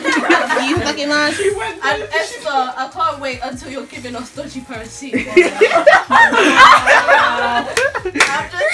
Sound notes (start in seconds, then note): 5.2 laughter